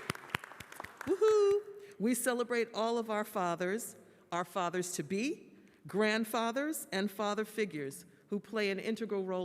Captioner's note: applause